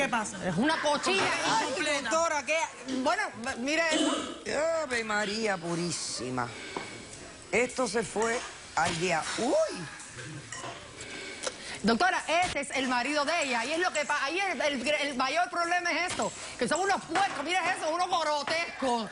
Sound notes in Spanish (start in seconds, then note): 3.9 Ruidos al vomitar